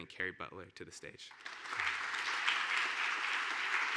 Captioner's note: applause